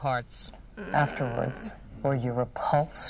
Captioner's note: groans